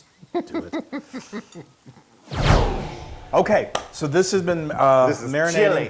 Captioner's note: laugh